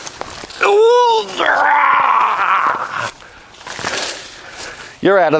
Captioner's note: grunting